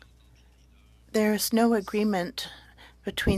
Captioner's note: speaking French